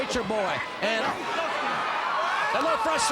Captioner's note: crowd cheering